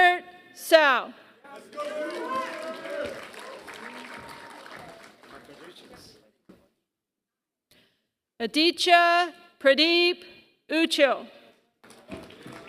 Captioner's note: applause; applause